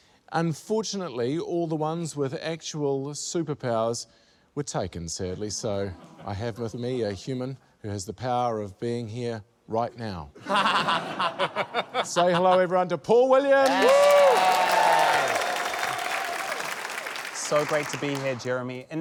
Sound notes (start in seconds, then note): 10.5 laughs; 10.5 chuckles; 13.6 cheering, applause